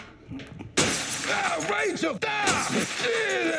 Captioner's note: glass shatters